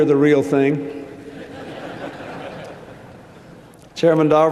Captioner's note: laughter